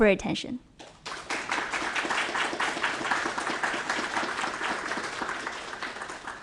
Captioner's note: applause